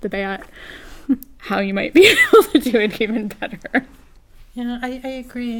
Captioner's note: laugh